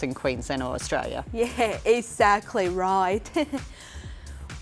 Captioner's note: chuckles